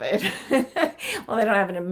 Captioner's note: laughing